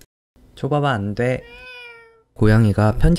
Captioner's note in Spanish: Miau ~